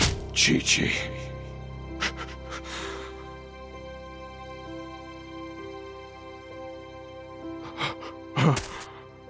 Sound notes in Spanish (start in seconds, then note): 1.9 Sollozando